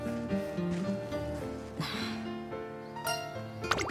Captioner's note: sigh